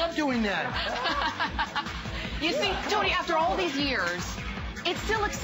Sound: laughter

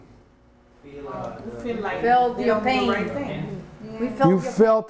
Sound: students calling out

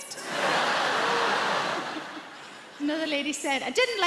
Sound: audience laughs

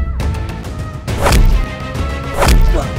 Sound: thud

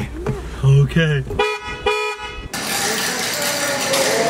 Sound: car horn

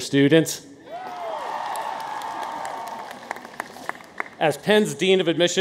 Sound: audience cheers

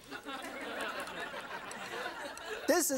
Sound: audience laughs

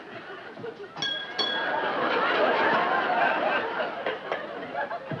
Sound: glass clinking; wood clapping

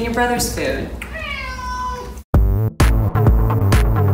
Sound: meowing; upbeat music

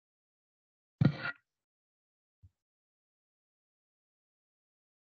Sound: silence

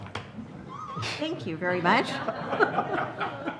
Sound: laughter

